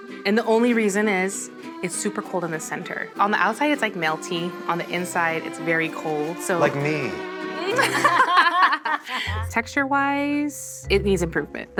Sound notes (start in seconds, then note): 7.6 people laughing